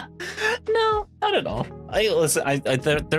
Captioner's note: laughing